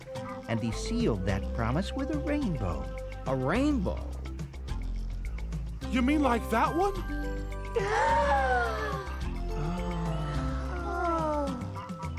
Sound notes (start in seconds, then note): 7.7 le gasp